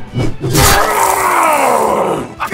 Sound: screams of only being able to count to six now

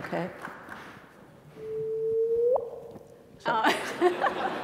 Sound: small drip noise

